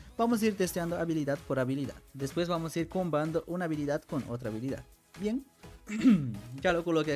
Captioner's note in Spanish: carraspeo